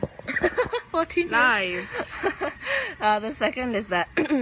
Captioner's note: laughs